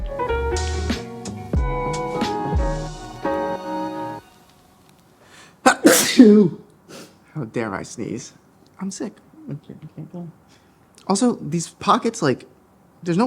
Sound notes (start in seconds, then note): 0.0 coffeehouse music; 5.6 sneezes